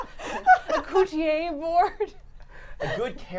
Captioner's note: laughter